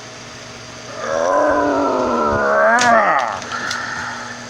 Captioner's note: Biggie Grunting